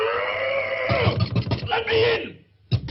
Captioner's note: Pin Cushion Man roars; fists pounding